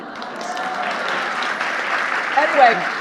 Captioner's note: audience applauding